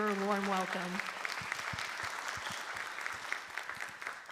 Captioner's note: applause